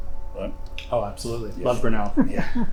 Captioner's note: chuckles